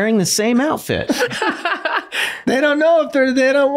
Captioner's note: laughing